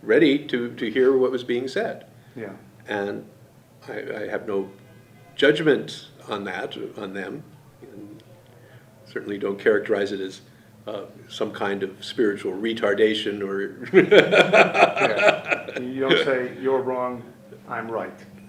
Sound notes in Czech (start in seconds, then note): 13.8 směje se